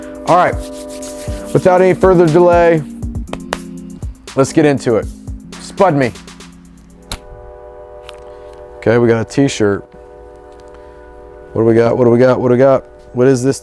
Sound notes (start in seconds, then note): 6.6 train horn blaring